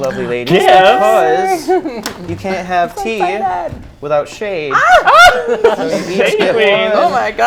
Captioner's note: laughs